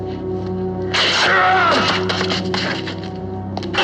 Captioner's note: groans